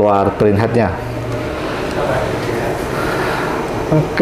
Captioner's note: distant chattering